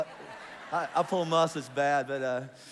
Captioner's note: congregation laughs